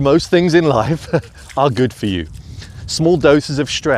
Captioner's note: laughs